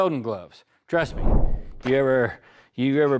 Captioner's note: whooshing